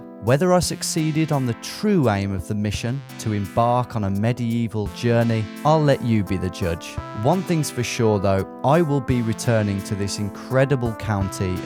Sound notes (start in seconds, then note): none